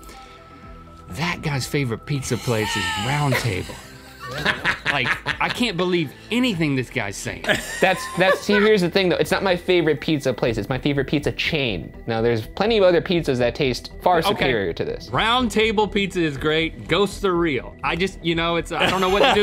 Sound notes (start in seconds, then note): 2.5 laughing; 7.4 laughing